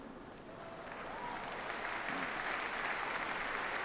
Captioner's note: audience applauds